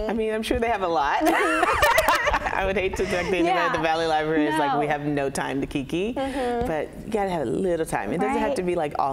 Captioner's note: laughter